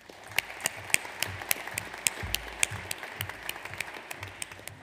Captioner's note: audience applauds